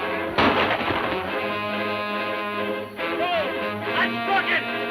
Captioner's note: gun roars